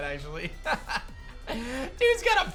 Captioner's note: laughs